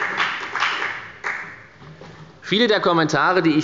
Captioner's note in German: Beifall bei der FDP